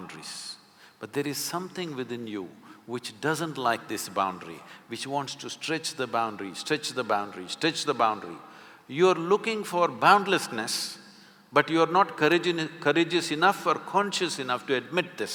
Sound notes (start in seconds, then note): none